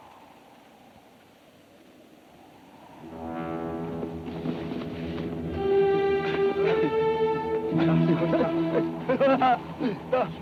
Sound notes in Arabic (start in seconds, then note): 2.9 موسيقى متوترة; 3.4 ثرثرة الأباتشي